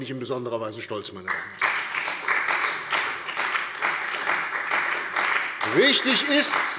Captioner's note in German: Beifall bei der CDU und dem BÜNDNIS 90/DIE GRÜNEN